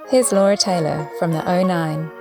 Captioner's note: none